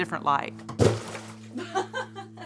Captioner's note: wood chunk splashes; Vivian laughing